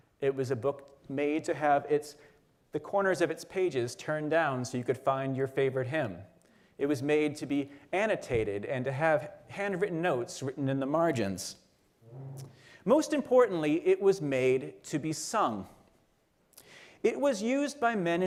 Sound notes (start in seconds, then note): none